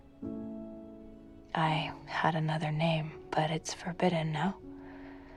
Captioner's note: voiceover